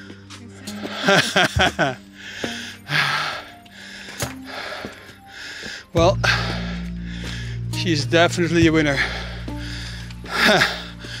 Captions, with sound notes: (laughs) Well, she's definitely a winner.